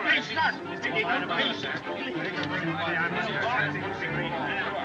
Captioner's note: all Chattering